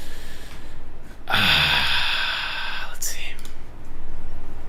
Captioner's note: sighs